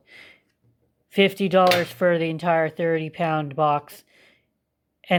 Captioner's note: spoon slams down